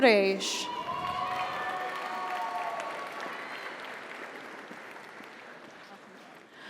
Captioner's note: audience cheers; audience applauds